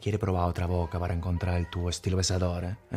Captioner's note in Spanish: acento italiano